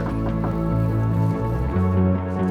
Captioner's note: knocks on door